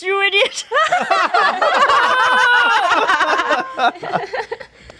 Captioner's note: group guffawing